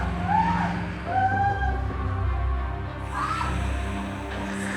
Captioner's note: screaming; snake hissing